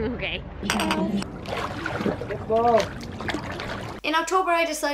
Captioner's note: water splashing